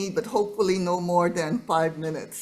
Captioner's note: none